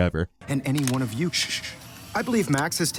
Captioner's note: camera whirs